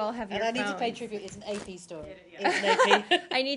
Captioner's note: laughter